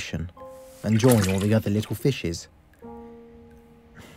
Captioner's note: splash